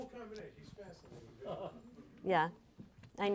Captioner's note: laughing